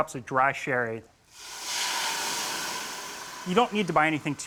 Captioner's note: sizzling